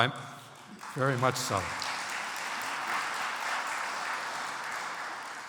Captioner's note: audience applauds